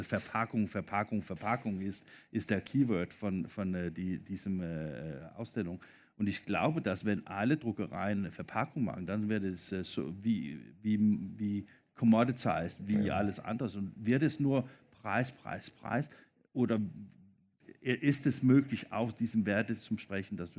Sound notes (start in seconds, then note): 10.6 foreign language 00:17:32